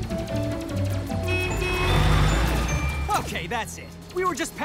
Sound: politely honks

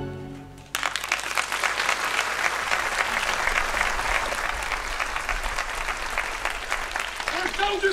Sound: applause

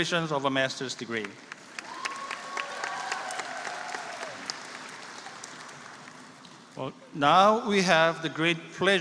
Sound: applause

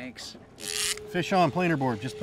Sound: reel spinning

